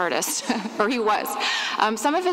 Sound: laughs

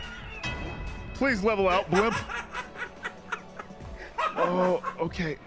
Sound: laughs

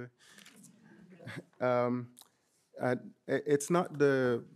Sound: audience chuckling

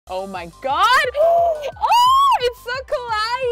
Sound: gasps

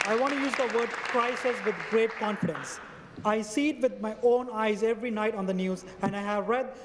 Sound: some Applause

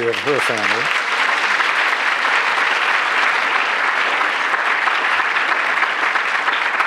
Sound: applause

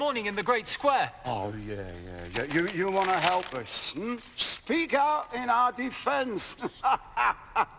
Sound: laughs

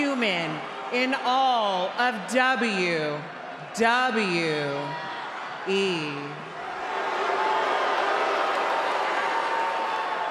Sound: booing

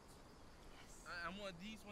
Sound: whispers

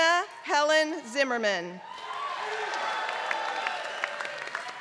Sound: applause; applause

